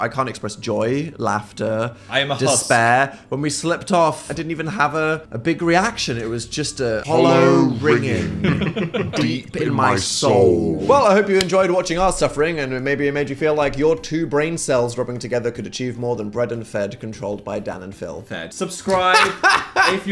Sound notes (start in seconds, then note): 6.7 distorted deep vocal; 8.0 laughs; 9.3 distorted deep vocal; 18.9 laughs